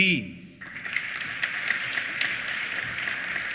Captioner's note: applause